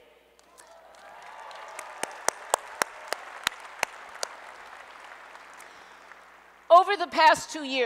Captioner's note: applause